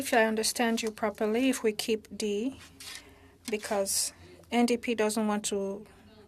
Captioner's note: speaking French